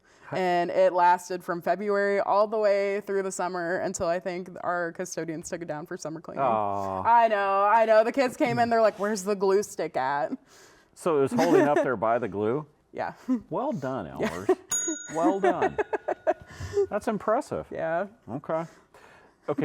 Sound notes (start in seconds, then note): 14.7 bell dings; 15.2 laughing